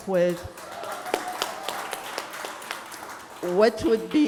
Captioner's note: applause